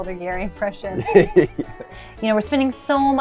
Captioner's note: laughs